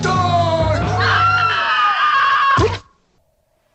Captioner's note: aunt screaming